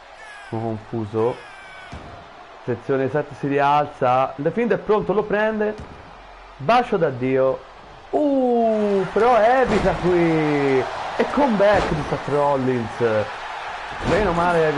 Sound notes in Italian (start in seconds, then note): 10.4 Applauso